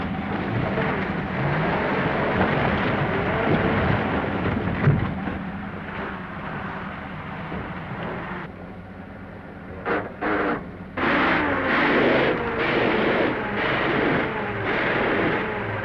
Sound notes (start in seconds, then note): 0.3 car rumbles; 10.9 gears grind